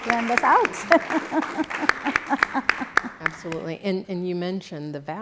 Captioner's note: laugh